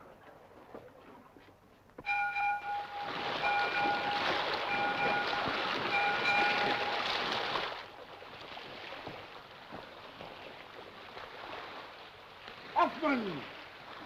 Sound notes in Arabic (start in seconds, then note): 2.0 رنين الجرس; 3.0 رش الماء